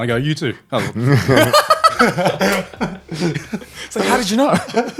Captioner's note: laughing